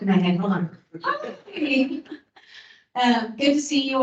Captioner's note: laughs